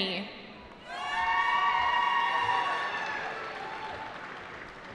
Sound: cheering

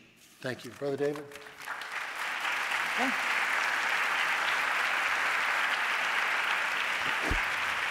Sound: applause

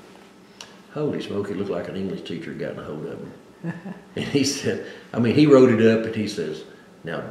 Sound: laughs

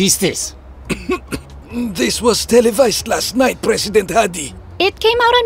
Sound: clears throat

